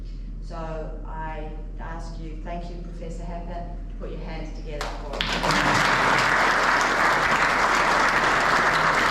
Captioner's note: clapping